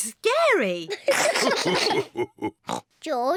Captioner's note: all laugh; oinks